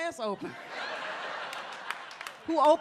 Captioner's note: audience laughs